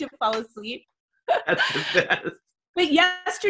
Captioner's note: laughs